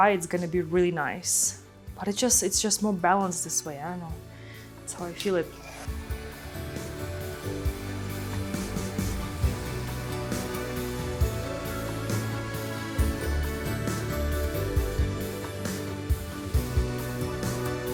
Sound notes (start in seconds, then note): 5.9 blower whooshing; 5.9 gentle bright music